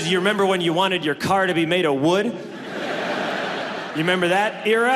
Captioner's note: audience laughs